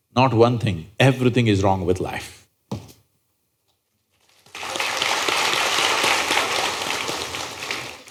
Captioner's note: applause